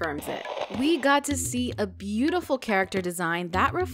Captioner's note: static